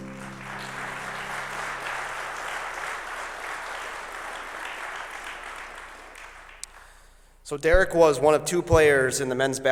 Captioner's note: applause